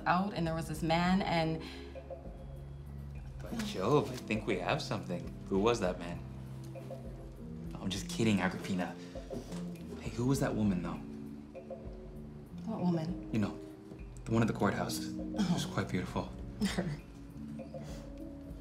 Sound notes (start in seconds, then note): 16.6 scoffs